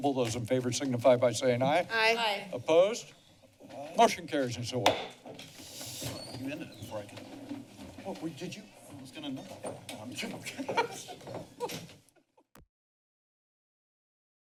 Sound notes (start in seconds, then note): 4.8 gavel tap; 10.2 chuckles